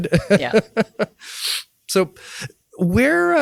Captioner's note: laughs